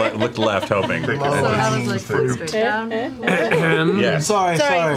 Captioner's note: clears throat